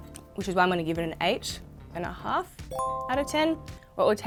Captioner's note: bell chiming